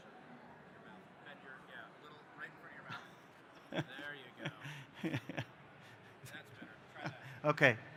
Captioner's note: laughter